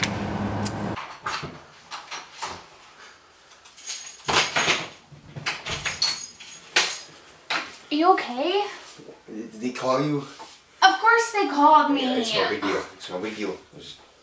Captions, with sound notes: [door opens and closes] [keys falling] -Are you okay? -Did they call you? -Of course, they called me! -Yeah, it's no big deal. It's no big deal.